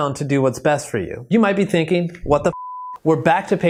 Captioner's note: beep